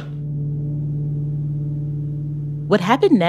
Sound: none

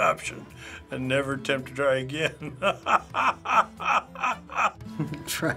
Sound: laughing

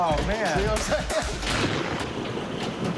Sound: thunder rumbling

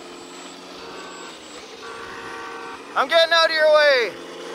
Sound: machinery engine revs; horn honks

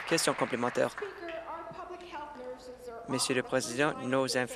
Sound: applause

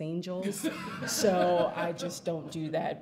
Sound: audience laughs

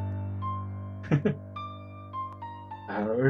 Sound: chuckles

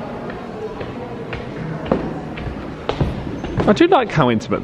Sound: guests chattering

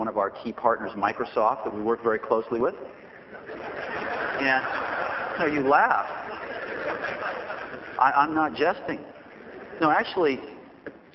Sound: laughter

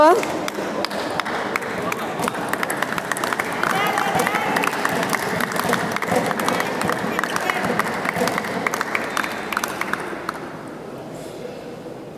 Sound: applause

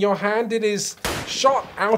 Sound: bang

